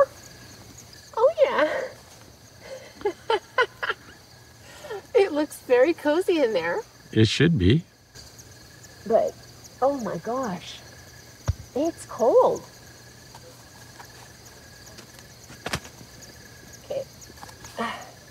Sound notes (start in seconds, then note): 2.6 laughing